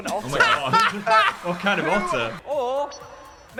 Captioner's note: laughing